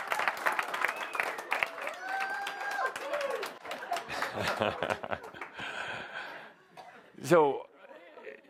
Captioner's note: audience laughter and applause